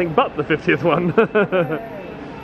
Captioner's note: chuckles